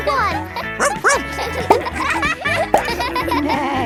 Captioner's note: barks